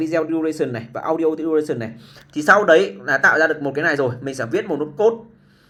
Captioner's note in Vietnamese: khịt mũi